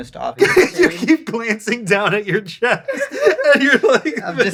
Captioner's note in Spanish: risas